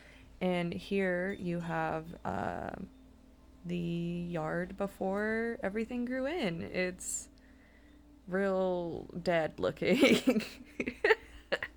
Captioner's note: awful chuckle